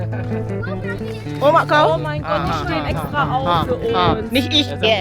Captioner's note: laugh; speaking German